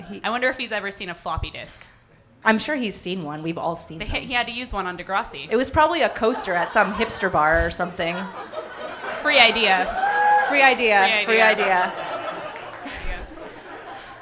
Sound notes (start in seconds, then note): 8.2 audience laughing; 12.1 audience laughing hysterically